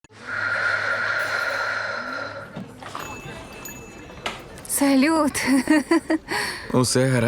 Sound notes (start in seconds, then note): 0.2 exhales; 2.9 bell jingles; 5.4 chuckles